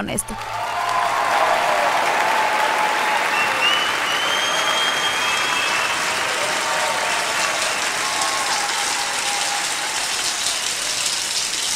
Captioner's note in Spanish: Audiencia aplaude